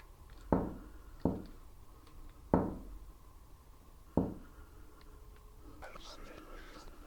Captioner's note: there's a knock at the door